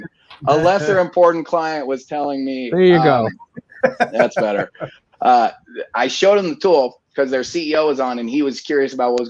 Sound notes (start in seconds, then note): 2.8 laughing